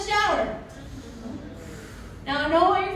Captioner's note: audience groans